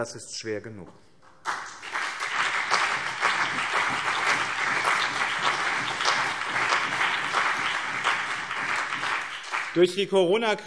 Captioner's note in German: Beifall BÜNDNIS 90/DIE GRÜNEN und CDU